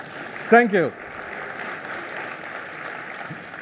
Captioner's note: applause